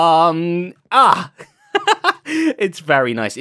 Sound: laughs

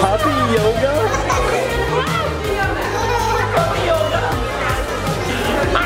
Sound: giggling and exclaiming

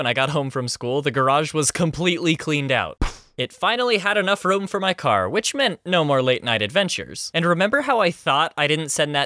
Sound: poof

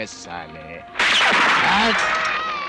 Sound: gunshot

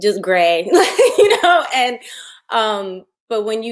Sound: laughing

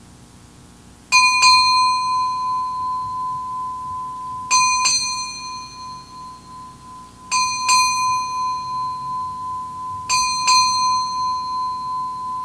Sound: bell rung

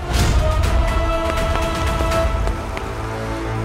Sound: footsteps receding

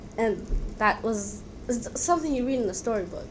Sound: none

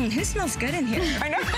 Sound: laughter

